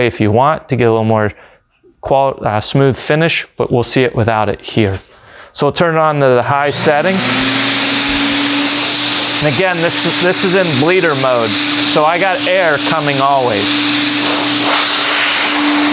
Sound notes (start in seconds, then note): 7.3 machine starting up